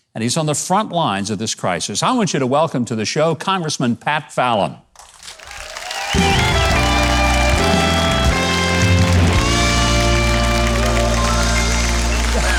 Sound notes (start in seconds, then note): 5.0 audience applauding; 6.1 jazzy upbeat music